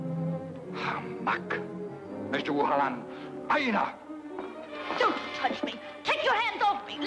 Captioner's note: man speaks in foreign language; speaks in foreign language